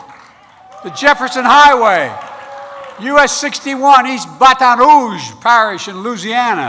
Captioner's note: applause